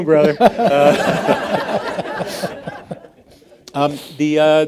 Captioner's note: all laughing